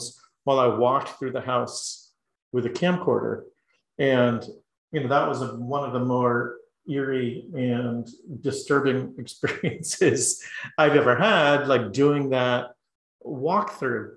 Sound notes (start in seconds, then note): 8.1 laugh